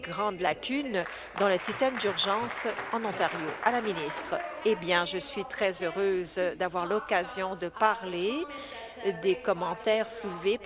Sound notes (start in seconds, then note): 4.3 applause